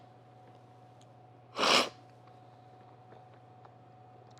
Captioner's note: sipping